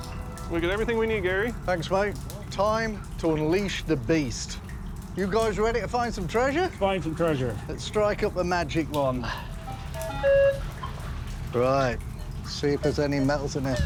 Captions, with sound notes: We'll do everything we need, Gary. Thanks, mate. Time to unleash the beast. You guys ready to find some treasure? -Find some treasure. -Let's strike up the magic wand. [machine beeps] Right. See if there are any metals in here.